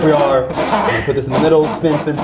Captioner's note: wheel cranking; laughs